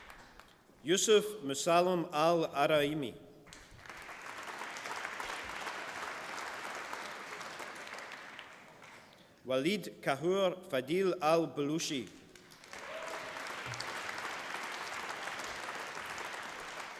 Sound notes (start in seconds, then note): 3.5 applause; 12.2 applause